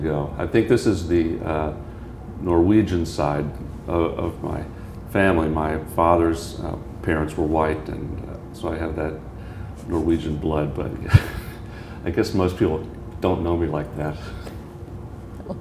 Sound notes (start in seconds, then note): 11.0 chuckle